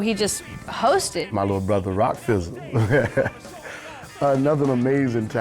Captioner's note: laughs